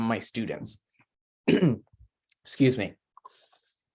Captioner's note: clears throat